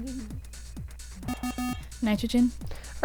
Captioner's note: wispering; bell